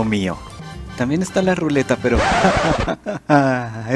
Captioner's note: laught nervious